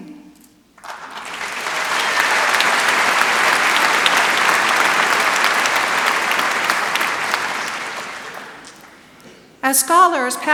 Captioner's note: applause